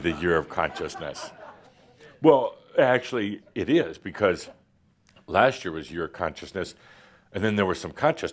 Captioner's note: laughter